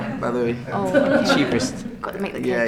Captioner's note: laughing